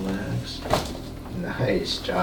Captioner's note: cracks